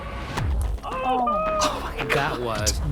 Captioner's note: groaning